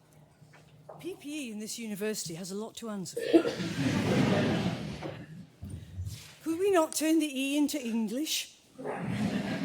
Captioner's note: laughter